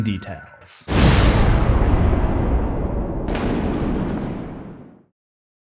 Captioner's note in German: thunder